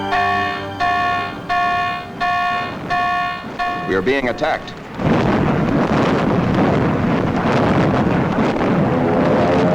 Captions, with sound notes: (alarm sounds) We are being attacked. (rapid explosions)